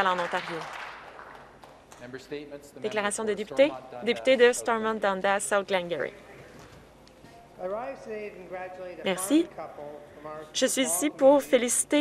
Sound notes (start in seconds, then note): 1.8 applause